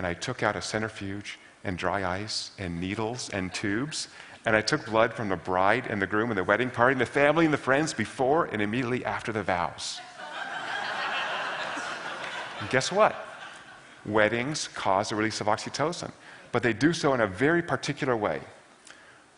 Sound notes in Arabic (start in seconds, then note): 10.1 ضحك